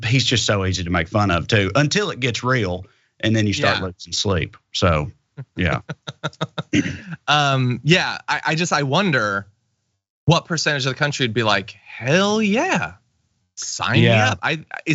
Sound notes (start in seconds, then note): 5.4 laugh